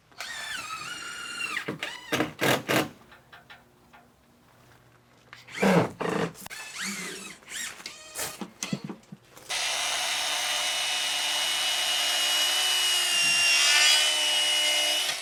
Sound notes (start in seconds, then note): 0.2 drill whirring; 0.3 drill clicking; 9.5 saw whirring